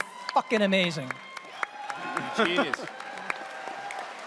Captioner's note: audience cheers, applauds